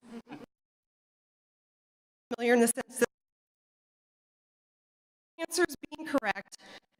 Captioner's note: audio cuts out